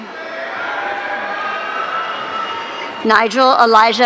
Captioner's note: audience cheering